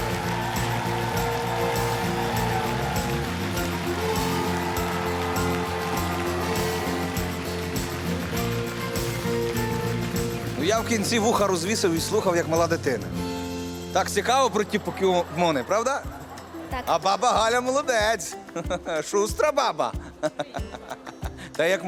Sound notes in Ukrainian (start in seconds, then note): 0.0 оплески